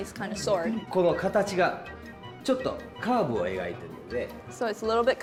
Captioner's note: speaking japanese